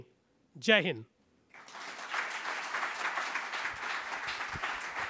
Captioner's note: foreign language; applause